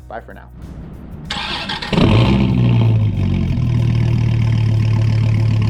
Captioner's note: car engin roaring